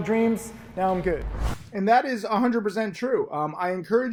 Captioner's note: air whooshes